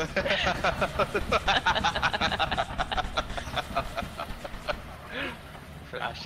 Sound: more laughter

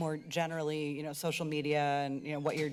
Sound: door closes

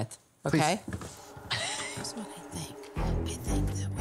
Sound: whispering

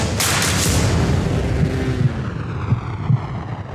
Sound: heart beat

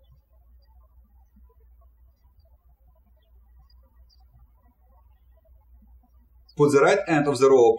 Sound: birds chirping

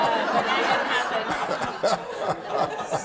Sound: laughter

